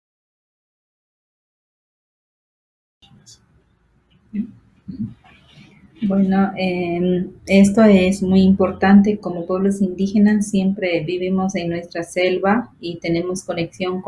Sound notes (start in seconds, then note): 6.0 speaking foreign language